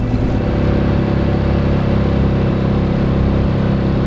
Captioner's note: engine revving